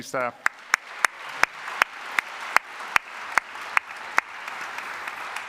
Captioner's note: congregation applauding